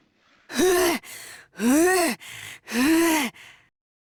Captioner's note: huff; pant